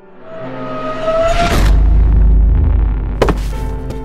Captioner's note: sci Fi sounds